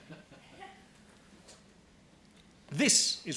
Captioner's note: laughing